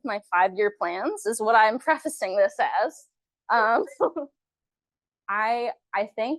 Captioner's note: chuckles